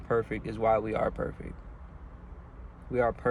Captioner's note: none